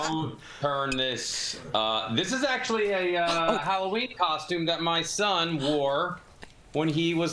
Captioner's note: laughter